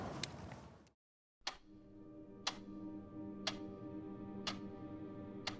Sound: clock ticking

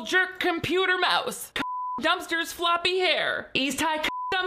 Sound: beep

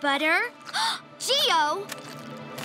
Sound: gasps

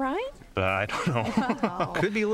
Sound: chuckling; laughter

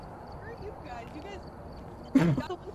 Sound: snorts

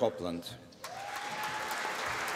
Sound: applause

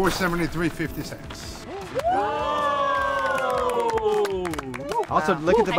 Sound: team green cheers

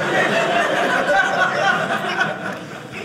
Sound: audience laughing

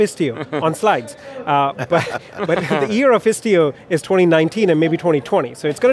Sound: laughs

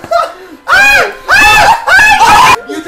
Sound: group yelling

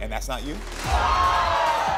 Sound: audience gasps

